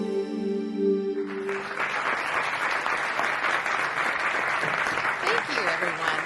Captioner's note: audience applauding